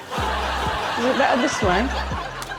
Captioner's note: audience laughs